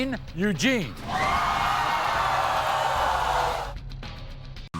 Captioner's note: audience cheering